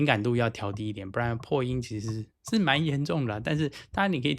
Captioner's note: voice popping